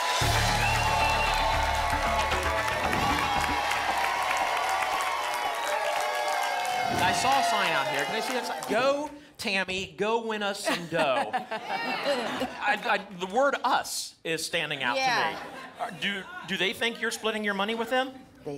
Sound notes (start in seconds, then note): 2.2 applause and cheering cont; 10.6 laughter